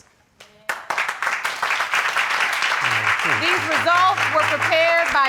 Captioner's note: applause